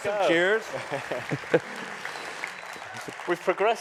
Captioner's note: cheers and applause